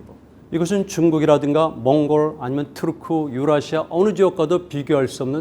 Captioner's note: speaking in Korean